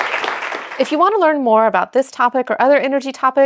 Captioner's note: audience applauding